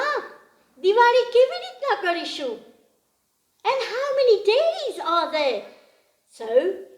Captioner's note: speaks in Gujarati